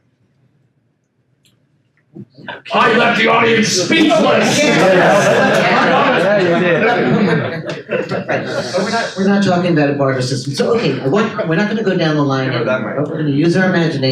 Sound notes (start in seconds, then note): 2.4 attendees laugh